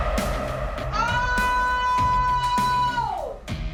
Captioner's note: screams